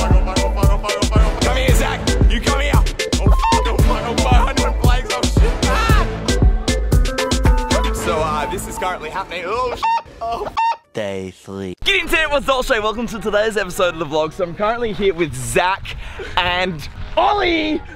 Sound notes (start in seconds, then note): 9.6 squawk